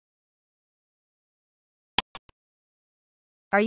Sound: click sound

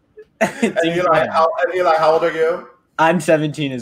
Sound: chuckles

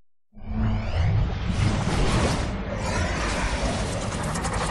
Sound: digital dramatic sounds

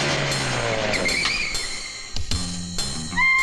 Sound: brakes squeal

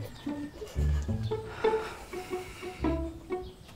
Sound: sighs heavily

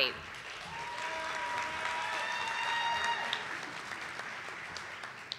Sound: audience applauding

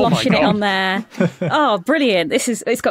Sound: chuckles

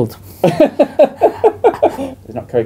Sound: laughs

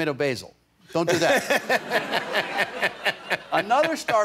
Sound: laughter

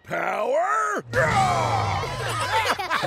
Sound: roars; laughing

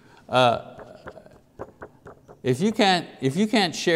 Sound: taps paper loudly

